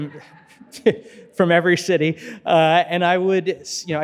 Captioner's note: chuckling